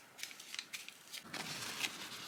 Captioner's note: paper crunches